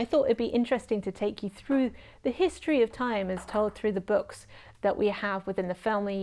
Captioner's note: cat playing with ping pong ball noises